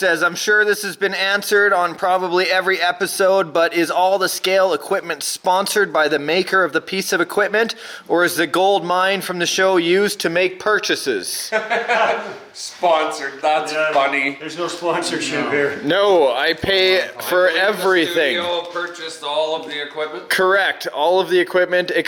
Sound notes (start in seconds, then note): 11.4 laughing